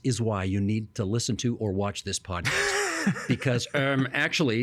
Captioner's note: laughing